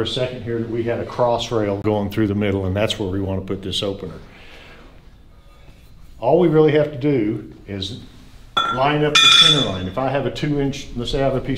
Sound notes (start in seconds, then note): 8.6 metal clanging